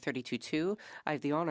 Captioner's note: speaking French